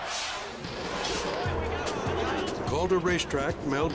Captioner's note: crowd yelling; engine rumbling